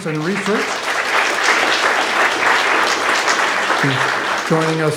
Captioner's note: graduates clapping